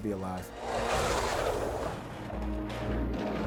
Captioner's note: bobsled scraping; dramatic music